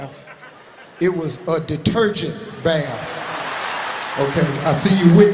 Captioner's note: audience laughing